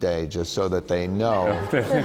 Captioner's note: laughter